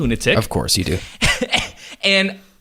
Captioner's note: laughs